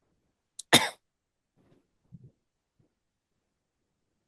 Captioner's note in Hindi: गला साफ़ करने की आवाज़